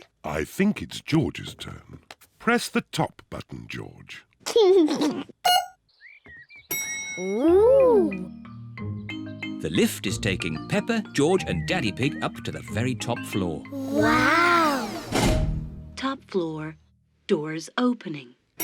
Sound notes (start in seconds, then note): 4.3 beeps; 4.3 giggles; 6.6 elevator bell dings